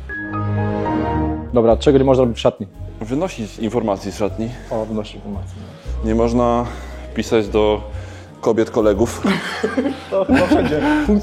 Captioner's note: laugh